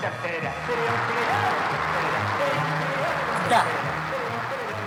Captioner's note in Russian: аплодисменты; ликование